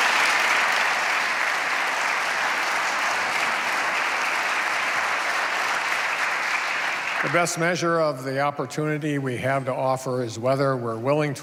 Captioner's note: applause